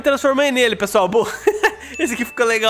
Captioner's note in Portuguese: risos